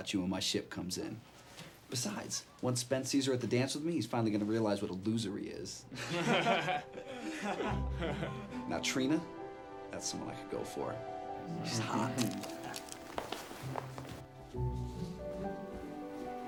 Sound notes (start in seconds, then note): 5.9 boys laugh; 13.1 gentle somber music